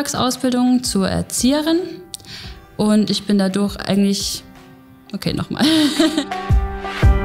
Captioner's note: laughs